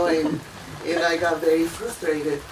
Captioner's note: laughing